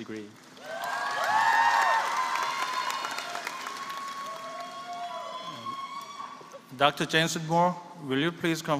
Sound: applause

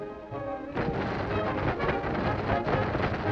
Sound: ice rattles

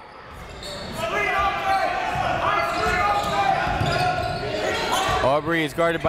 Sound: crowd talking; coaches yelling

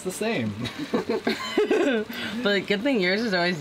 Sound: both laughing

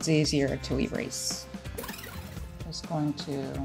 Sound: tape rewinding

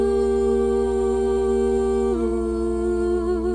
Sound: none

